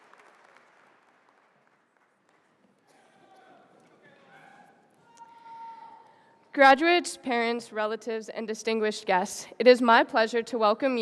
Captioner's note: applause